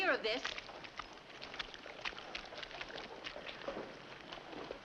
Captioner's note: footsteps in mud